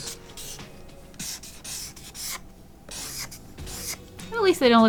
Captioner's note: marker scratch sounds